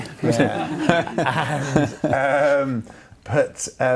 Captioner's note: laughs